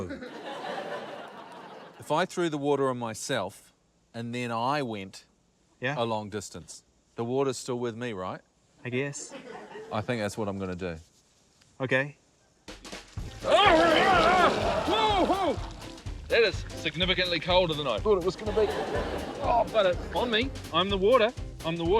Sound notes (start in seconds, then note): 0.0 laughter; 13.7 laughter; 18.2 laughter